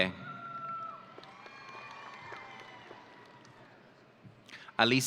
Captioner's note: audience cheering